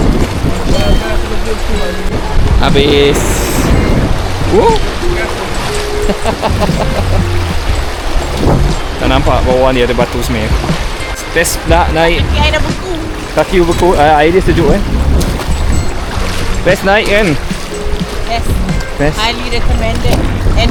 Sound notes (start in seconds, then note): 6.0 laugh